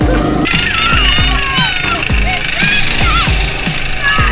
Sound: shouting

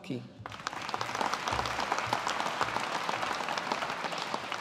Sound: audience applauding

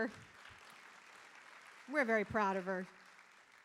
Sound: audience applauding

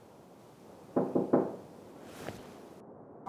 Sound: door knocking

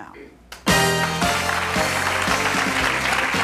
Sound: applauding

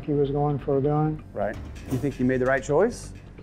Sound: whooshing

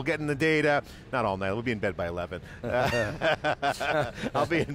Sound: laughs

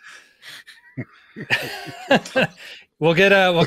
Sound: hosts laugh

